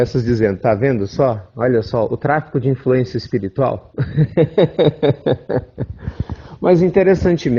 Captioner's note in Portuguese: risos